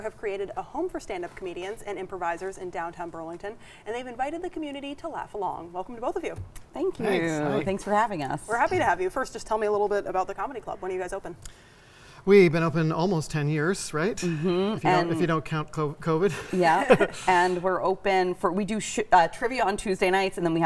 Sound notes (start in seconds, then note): 16.3 chuckling